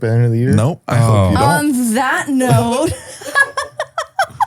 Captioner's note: laughs